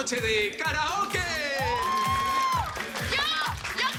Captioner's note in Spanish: Exclamaciones